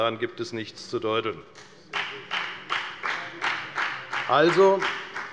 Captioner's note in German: Beifall bei der FDP